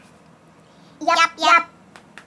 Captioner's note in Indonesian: ngomong korea